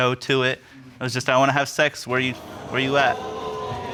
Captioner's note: audience exclaims